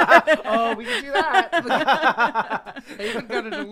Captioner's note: laughing